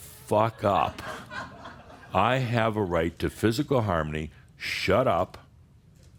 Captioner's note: some laughter